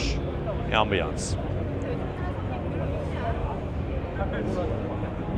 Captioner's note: crowd chattering